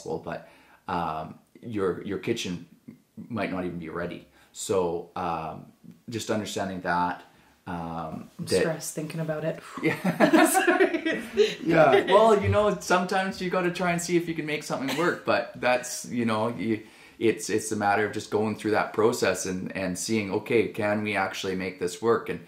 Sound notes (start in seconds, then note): 9.8 laughs